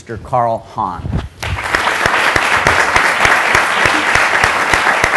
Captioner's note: applause